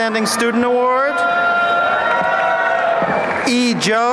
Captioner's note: applause